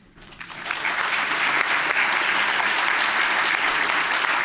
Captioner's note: applause